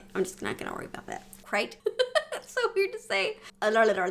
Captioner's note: laughs